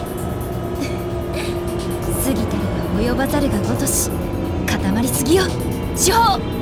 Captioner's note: chuckle